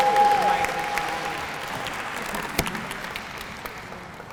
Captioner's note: applause